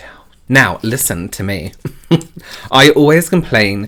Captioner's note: chuckles